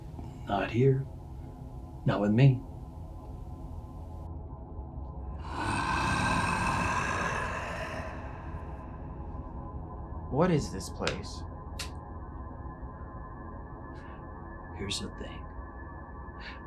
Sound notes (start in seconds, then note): 5.4 voice growling